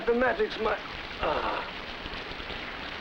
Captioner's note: groans